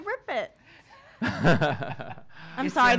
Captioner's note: laughing